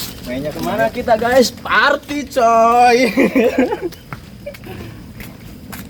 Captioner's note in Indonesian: tertawa